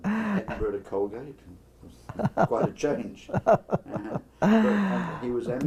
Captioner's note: laugh